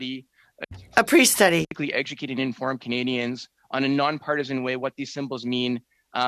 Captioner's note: speaking French